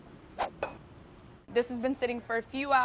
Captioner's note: whooshing